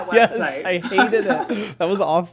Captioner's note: laughing